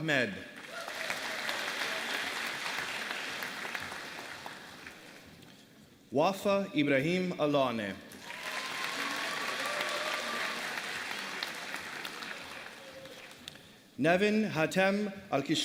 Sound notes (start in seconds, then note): 0.5 applause